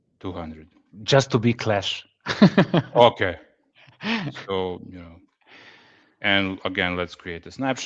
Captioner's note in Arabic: ضحك